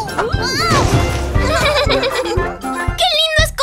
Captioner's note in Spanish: Risas